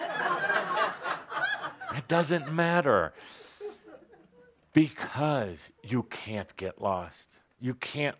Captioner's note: laughter